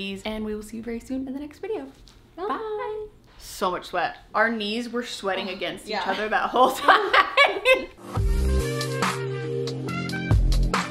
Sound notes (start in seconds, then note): 6.0 laughs; 7.9 mellow music